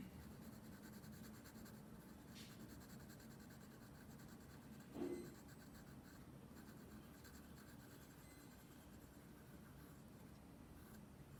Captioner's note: pencil shading sounds